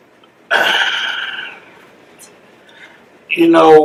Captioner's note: sigh